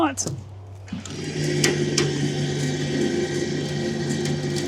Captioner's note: trailer whirring